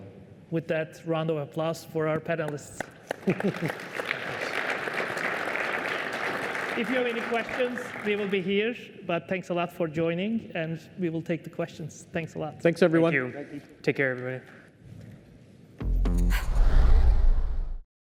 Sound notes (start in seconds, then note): 2.4 applause